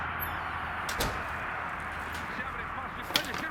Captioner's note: door closes